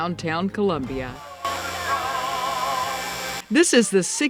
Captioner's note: candy maker machine whirring